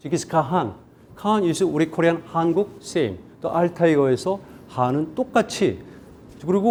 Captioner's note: speaking in Korean